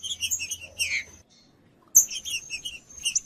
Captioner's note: trinca ferro cantando